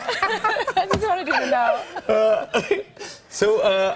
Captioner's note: laughter